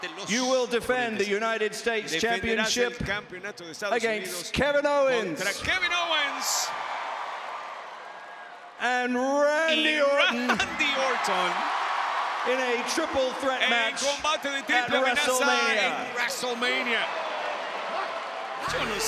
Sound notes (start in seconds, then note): 6.6 applause; 10.5 applause